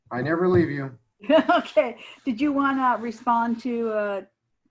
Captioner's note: laughing